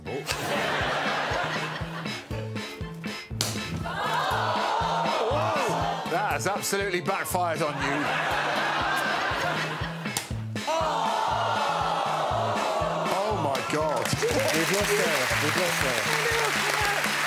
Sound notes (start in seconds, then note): 12.9 audience exclaim